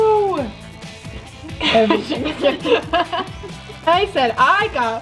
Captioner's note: both laugh